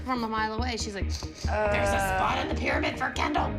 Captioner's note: sniffs